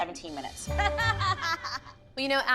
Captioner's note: laughs